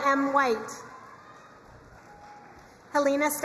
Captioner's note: crowd cheering and applauding